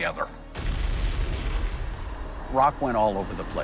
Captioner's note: explosion